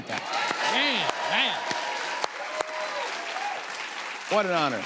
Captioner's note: cheers and applause